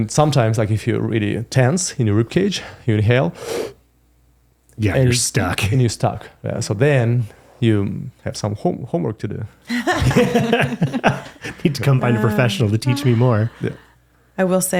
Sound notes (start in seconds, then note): 3.4 breathing in; 9.6 laughing